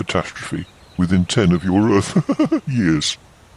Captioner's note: laughs